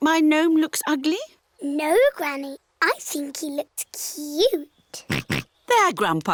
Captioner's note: oinks